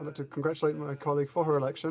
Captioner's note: speaking french